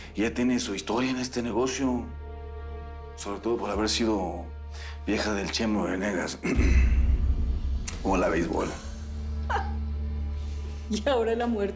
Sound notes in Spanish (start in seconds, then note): 6.4 Carraspea; 9.5 Risas